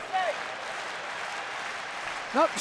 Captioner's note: crowd claps rhythmically